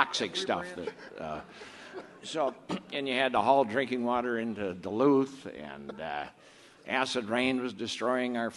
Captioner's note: clears throat